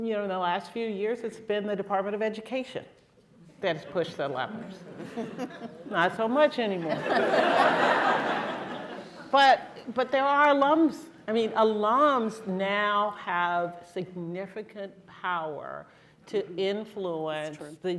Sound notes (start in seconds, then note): 4.8 laughter